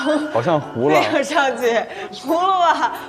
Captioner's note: laughs